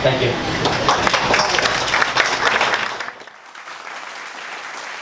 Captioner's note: audience applauds